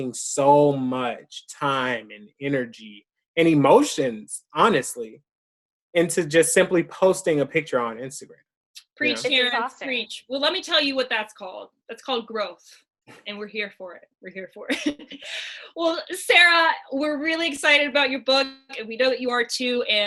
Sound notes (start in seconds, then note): 14.8 chuckles